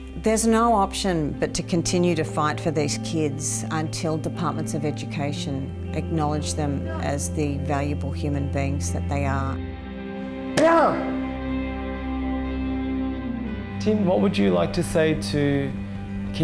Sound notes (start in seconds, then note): 10.5 shouts